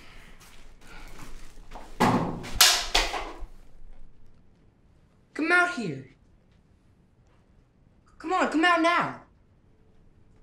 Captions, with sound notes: (loud thud) (loud clattering) - Come out here! Come on, come out now.